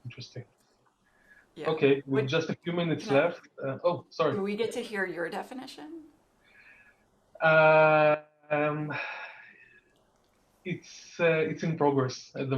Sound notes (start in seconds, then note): 3.7 woman speaking softly